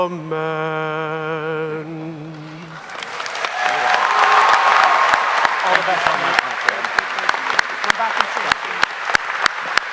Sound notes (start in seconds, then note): 2.7 audience applauding; 2.8 audience cheering